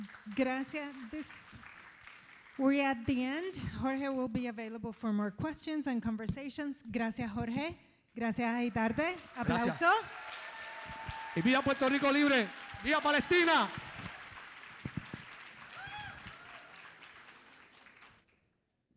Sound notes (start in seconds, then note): 0.0 audience applauds; 8.4 speaking in foreign language; 14.7 audience cheers